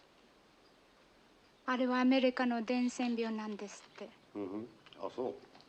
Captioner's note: speaking japanese